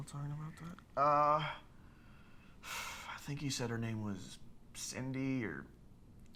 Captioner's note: sighs